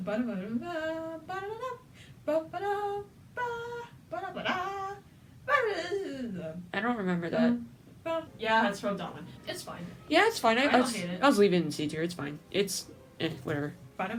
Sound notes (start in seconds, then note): 1.5 humming the beginning